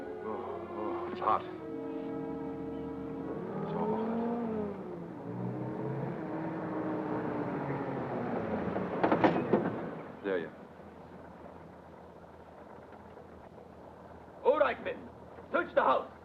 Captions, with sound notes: Oh, oh, it's hot. It's awful hot. (jeep engine humming) Delia? - All right, men. Search the house.